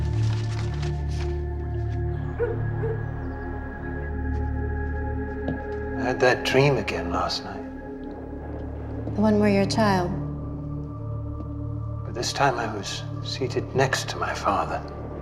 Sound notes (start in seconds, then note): 2.2 dog barks